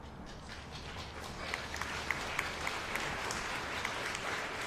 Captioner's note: applause